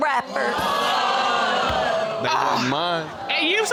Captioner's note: audience exclaims